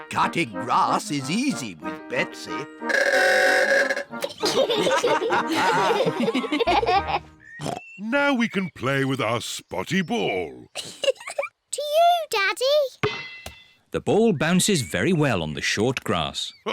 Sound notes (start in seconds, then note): 2.8 horn bellows; 4.2 all giggle; 7.5 snorts; 10.8 giggles